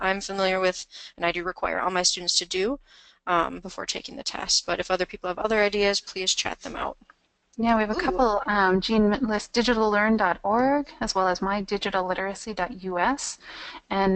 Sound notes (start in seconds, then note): 7.6 voiceover